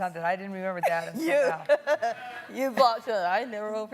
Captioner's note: laughing